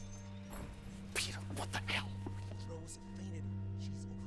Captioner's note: whispering